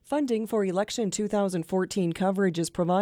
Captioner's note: voiceover